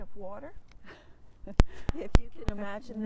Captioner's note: chuckles